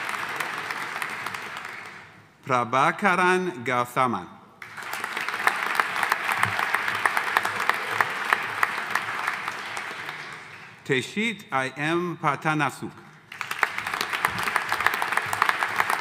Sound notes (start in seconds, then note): 4.6 audience applauding; 13.3 audience applauding